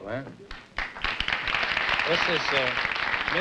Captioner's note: applause